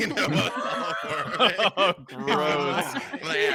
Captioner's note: laughing